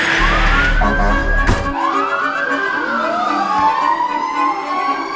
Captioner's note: emergency sirens